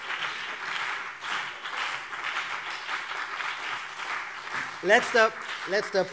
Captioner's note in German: Beifall CDU und BÜNDNIS 90/DIE GRÜNEN